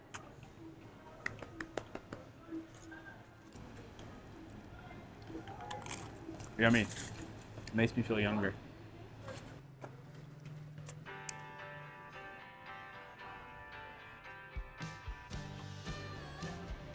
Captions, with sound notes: (claps) Yummy. Makes me feel younger.